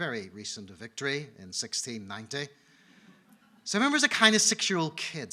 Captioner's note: audience laughing